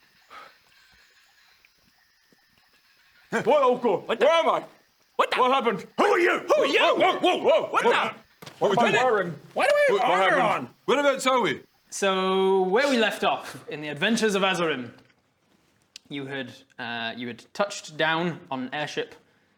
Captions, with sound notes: *sigh* *crickets* - Huh! - Whoa! - Where am I?! - What the-- What the-- What happened?! Who are you? WHO ARE YOU? WHOA WHOA! WHOA! WHAT THE-- - What're we doing? - What am I wearing? - Why do I have armour on? - Wha...what happened? Whereabouts are we? So...where we left off in the Adventures of Azerim you had touched down on an airship